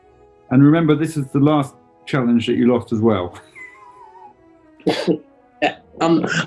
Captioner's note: chuckling